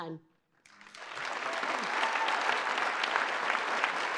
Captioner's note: applause